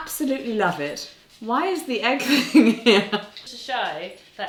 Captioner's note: laughing